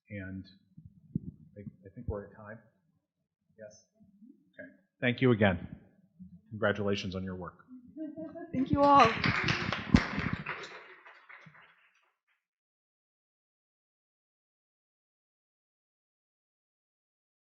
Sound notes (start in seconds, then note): 8.5 audience applauding